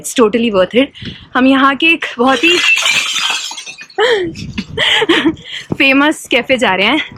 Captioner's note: chuckles